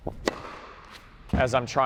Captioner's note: racket smacking